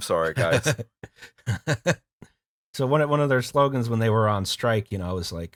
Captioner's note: laughter